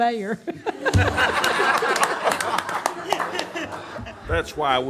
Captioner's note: everyone laughs